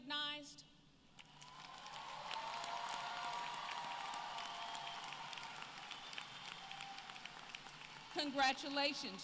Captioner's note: applause